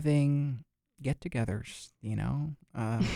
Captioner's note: both laugh